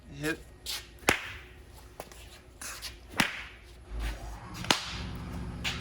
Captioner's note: tennis ball bouncing